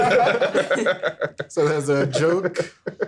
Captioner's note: everyone laughing